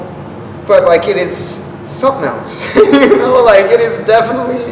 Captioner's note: laughs